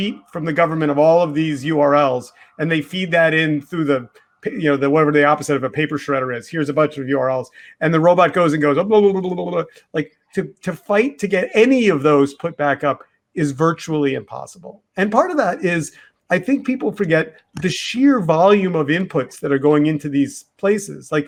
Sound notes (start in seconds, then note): 9.0 mimicking a robot